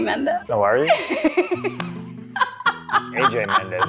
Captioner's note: laughs